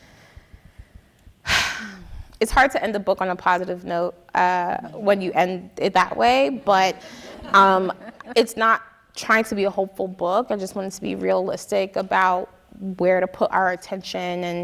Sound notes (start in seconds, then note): 1.4 sighing